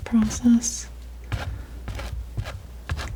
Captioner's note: tapping